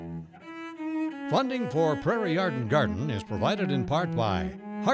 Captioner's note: voiceover